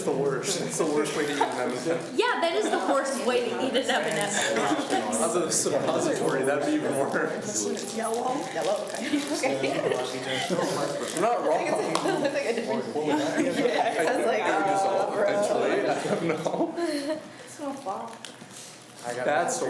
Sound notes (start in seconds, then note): 9.0 laughs; 10.0 students talk amongst themselves